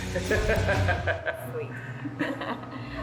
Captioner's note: laughs heartily; laughs